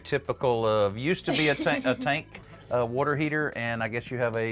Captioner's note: laughs